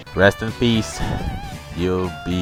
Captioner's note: air sounds